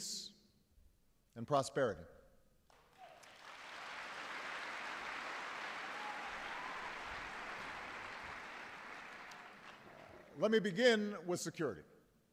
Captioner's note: applause